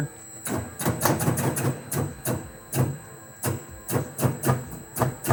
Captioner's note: machine clicking and humming